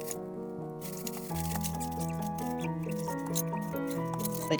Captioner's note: none